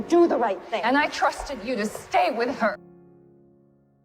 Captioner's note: shouting